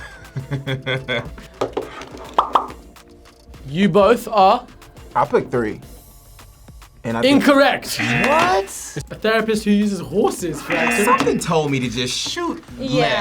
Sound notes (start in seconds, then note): 0.4 laughs; 7.9 buzzer